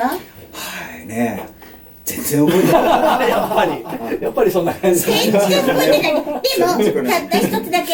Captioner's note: laughs